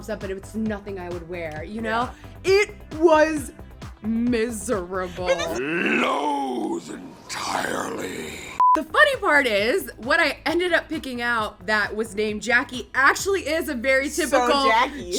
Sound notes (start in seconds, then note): 8.6 beep